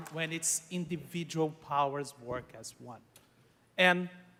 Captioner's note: applause